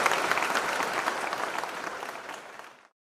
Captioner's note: audience clapping